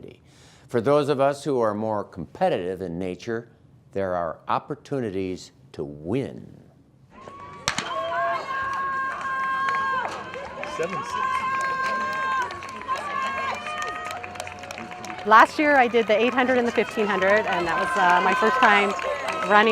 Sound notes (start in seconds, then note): 7.0 cheers; 11.6 applause